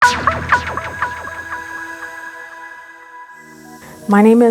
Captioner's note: digital sound effect